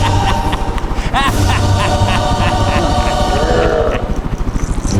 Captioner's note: Uncle Roger laughing